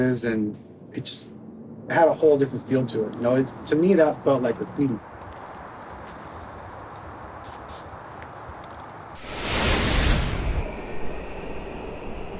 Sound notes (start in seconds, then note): 7.2 spray cans hissing; 9.1 intense whooshing